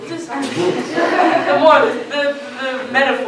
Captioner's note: laughter